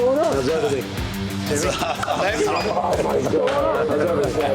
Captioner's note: both chuckling